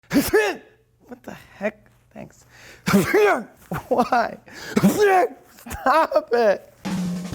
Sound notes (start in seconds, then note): 0.0 sneeze; 2.8 sneeze